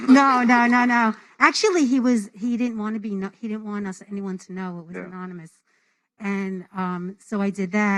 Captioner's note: applause